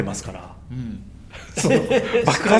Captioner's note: laughs